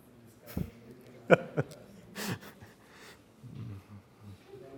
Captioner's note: laughing